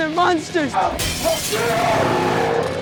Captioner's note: glass shatters; growls